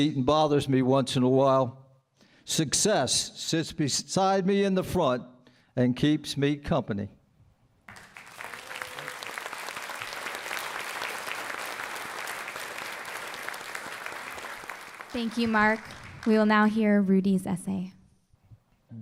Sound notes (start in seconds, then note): 8.0 applause